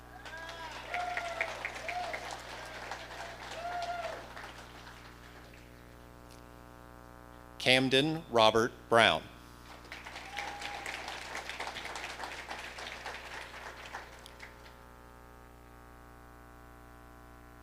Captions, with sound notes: (audience applauding) Camden Robert Brown. (audience applauding)